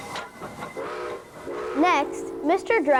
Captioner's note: horn blowing